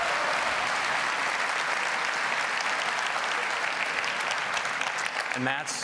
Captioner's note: applause